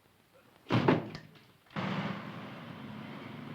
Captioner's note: bang